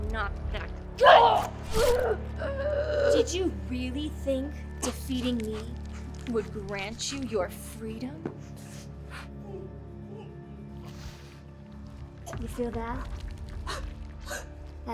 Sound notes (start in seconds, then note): 1.8 grunting; 2.9 choking; 9.9 choking